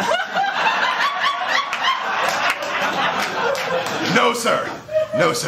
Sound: laughter

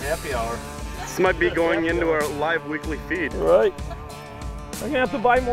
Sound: voiceover

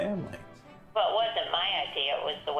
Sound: on Speakerphone

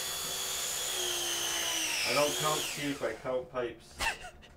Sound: electric wrench whirs

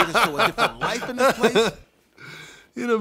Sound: laugh

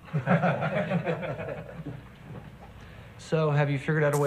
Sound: men laughing

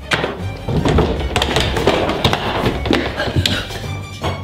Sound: loud footsteps

